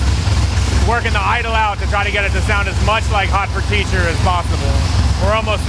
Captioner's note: engine growling